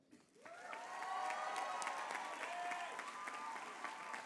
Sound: applause

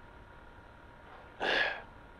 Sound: Grif sighs

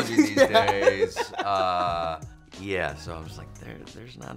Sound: laughter

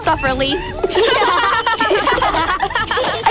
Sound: laughing

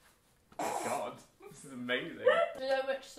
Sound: laughs

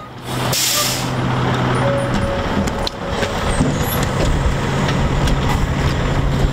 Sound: engine rumbling; air brakes hissing

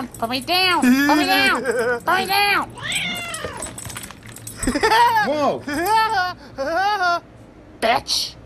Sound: laughs

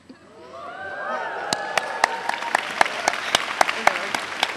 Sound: applause

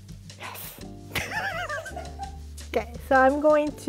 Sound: laughing

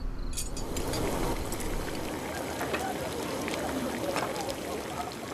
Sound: water boiling

